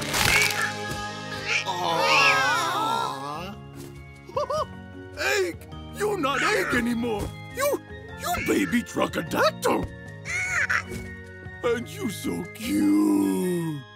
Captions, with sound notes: -Aww! -Aww! Ho ho ho, egg, you not anymore... you... you baby truck-adactyl! [squeaking] And you so cute!